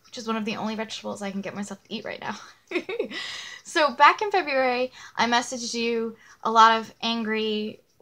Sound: laughs

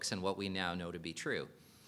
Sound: none

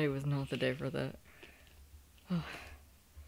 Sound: sigh

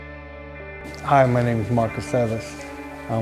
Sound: voiceover

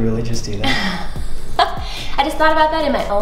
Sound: laughs

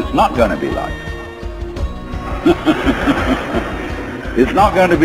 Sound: Alan & audience's laughs

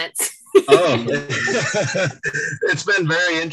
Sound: all laugh

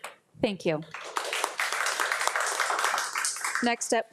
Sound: audience applauding

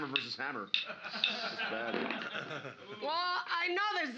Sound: loudly laughing

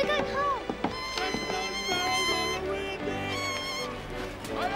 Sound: bird squawking

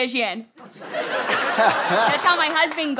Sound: audience laughter

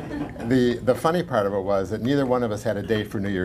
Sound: laughter

